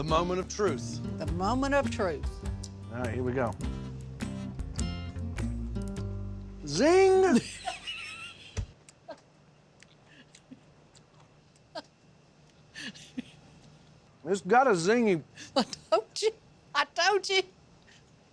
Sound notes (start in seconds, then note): 7.3 laughter